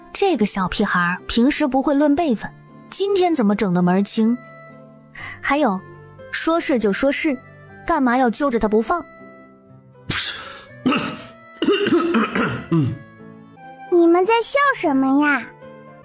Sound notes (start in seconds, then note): 11.5 coughs